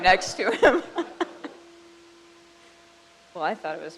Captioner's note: crowd laughs